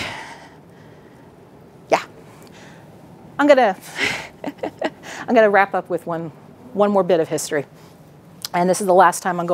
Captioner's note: laughs